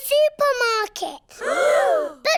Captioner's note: all gasp